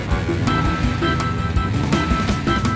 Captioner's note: motors rumbling